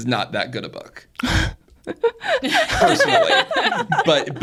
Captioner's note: speakers laugh